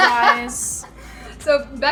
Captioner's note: laughs